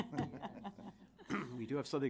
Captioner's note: chuckling